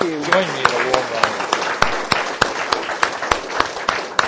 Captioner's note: applause